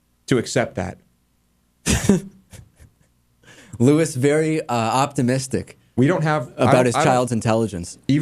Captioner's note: laughs